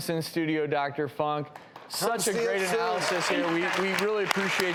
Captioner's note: audience applauding